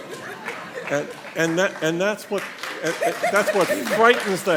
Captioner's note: nervous laughter and scattered applause